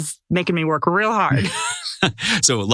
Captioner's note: laugh